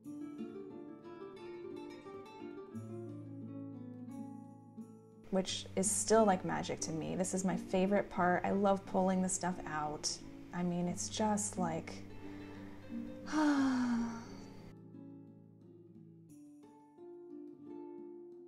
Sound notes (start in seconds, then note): 16.2 sigh